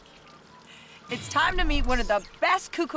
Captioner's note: chuckles